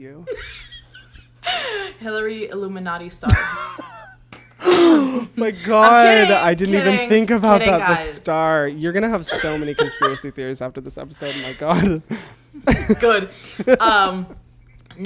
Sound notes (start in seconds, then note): 0.2 laughs; 4.3 laughs; 12.5 laughs